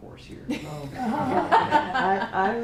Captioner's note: laughter